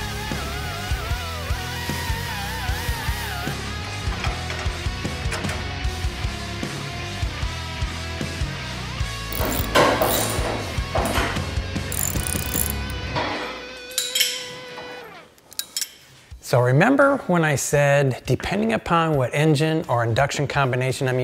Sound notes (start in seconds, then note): 4.8 metal clinking